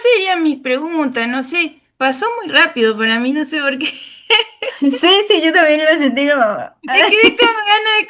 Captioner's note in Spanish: risas